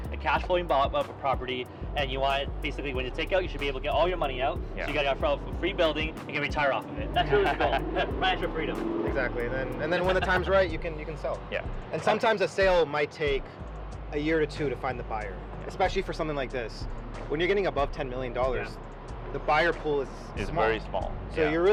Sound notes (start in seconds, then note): 7.1 chuckles; 9.8 car drives